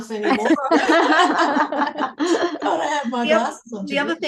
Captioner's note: everyone laughs